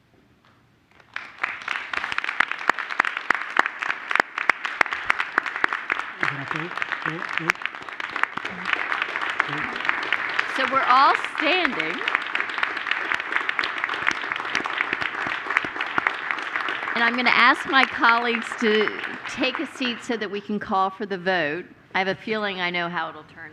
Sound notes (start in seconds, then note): 8.0 applause